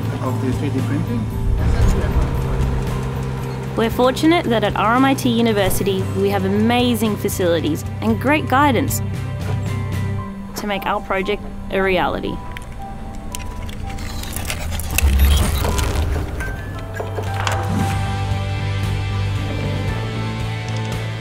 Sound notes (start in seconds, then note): 14.5 electronic whirring; 17.1 upbeat music